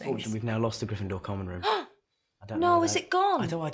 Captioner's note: rowling gasps